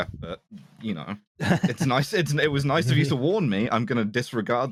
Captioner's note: laughs